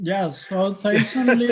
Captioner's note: laughs